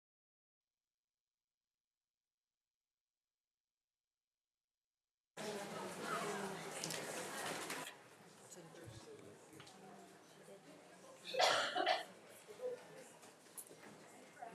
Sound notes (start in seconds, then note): 5.4 attendees chattering